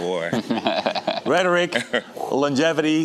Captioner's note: chuckling